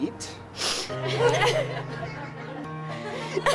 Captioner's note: all laughing